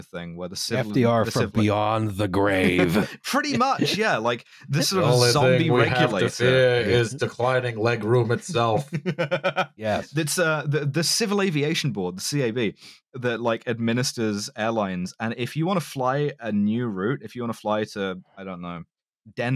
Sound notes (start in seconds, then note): 2.6 laughter; 5.2 FDR voice; 8.4 laughs delightedly